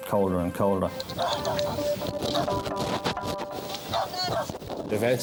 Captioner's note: dogs barking